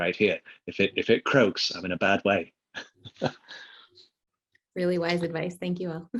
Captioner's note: chuckles